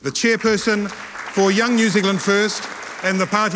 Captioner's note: audience applauding